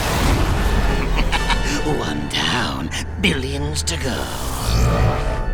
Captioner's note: evil cackle